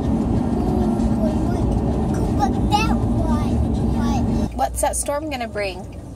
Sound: babbling

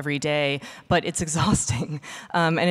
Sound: laughing

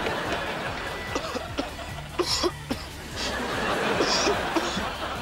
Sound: coughing

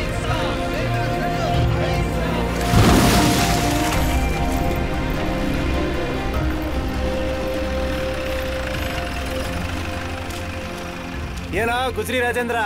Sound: car Sound

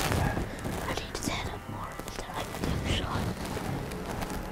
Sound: whispering

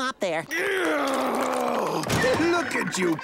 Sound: groaning

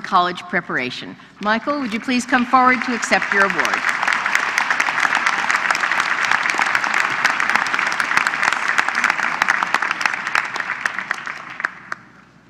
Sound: applause

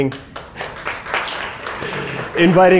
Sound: applause

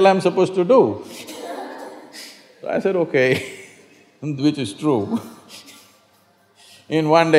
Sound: laughs

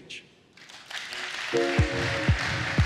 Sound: applause

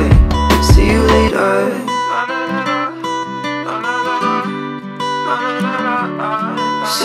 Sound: vocalizing

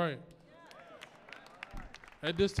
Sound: audience cheering

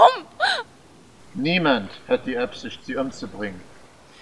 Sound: east german accent

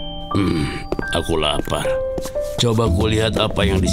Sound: grunts

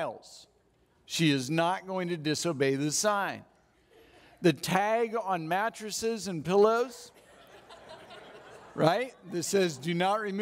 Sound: audience laughs

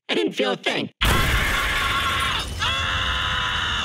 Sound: explosion booming; distorted screaming

